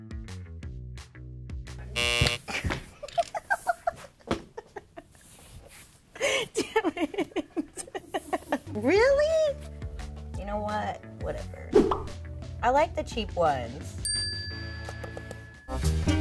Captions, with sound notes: (buzzer buzzing) (laughing) Dammit. Really? You know what, whatever. I like the cheap ones.